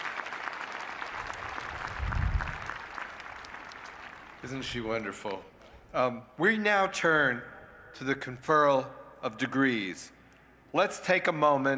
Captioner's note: applause